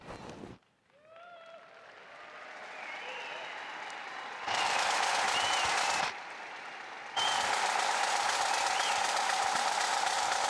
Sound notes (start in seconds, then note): 1.1 audience cheering and applauding